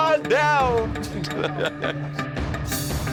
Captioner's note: laughter; tense music